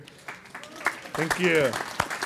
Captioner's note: applause